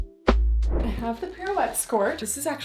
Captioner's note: screen whooshing